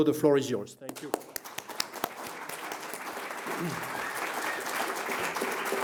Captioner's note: audience applauding